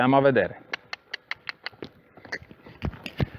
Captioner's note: cluck